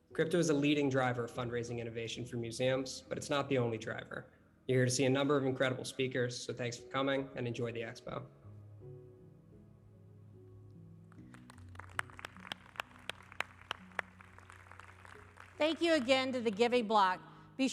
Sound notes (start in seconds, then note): 11.2 audience applauding